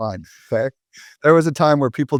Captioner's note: laughs